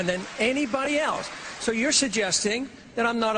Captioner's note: applause